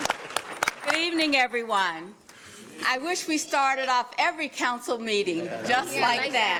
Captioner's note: applause